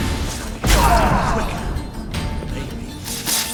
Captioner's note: thunderous boom; groan